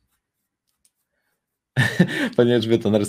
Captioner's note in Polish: śmiech